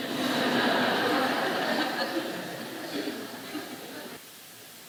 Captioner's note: laughter